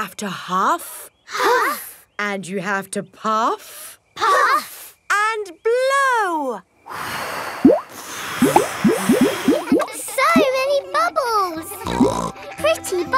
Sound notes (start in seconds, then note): 7.0 all blowing; 11.8 snorts